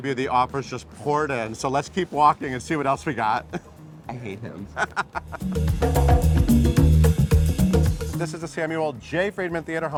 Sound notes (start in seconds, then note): 4.5 laughs; 5.2 funky music